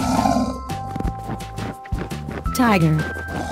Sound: tiger sound

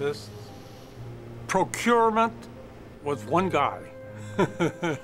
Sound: laughs

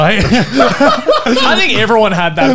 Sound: laughing loudly

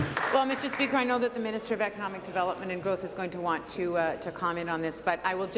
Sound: applause

